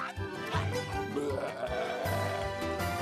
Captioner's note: growling